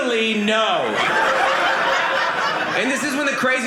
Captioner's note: audience laughing